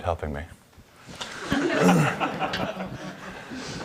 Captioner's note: audience laughter